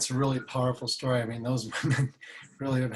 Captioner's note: laughs